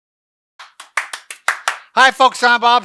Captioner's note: clapping hands